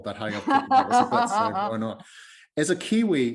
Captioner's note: laughing